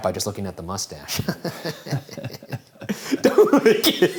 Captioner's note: laughing